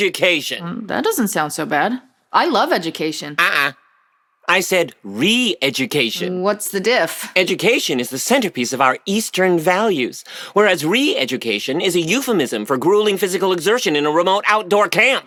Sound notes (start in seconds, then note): none